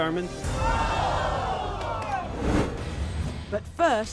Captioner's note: audience groans